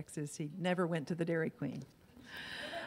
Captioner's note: laughs